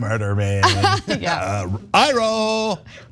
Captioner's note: laugh